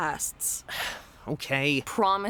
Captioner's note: sighs